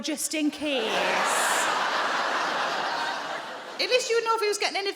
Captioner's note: audience laughing